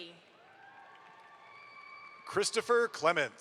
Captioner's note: audience applauds